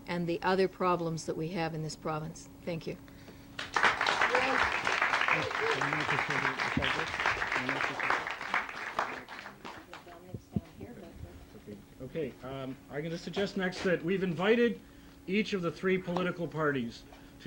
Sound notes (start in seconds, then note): 3.5 audience applauding